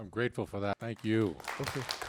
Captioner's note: crowd applaud